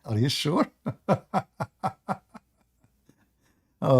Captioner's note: Ketawa